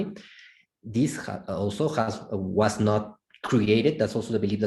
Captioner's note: foreign language